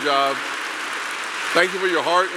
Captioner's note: applause